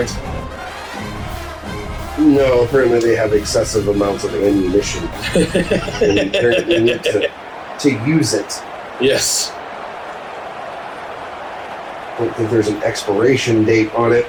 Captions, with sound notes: [Crowd Noises] No, apparently they have excessive amounts of ammunition. [LAUGHTER] And they need to use it. [Crowd Noises] Yes. [Crowd Noises] I don't think there's an expiration date on it,